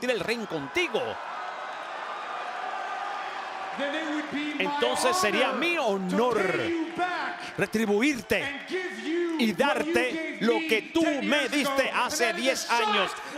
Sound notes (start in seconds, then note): 0.0 applause